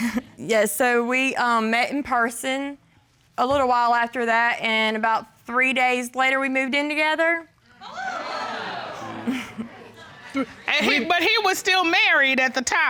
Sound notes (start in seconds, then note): 7.8 audience exclaiming; 7.9 chuckling